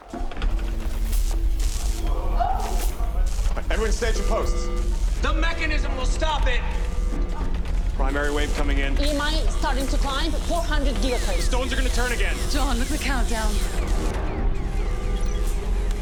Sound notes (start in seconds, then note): 0.2 electricity crackling; 1.8 people gasp; 4.4 alarm wailing; 7.2 crackling continues; 13.8 beeping continues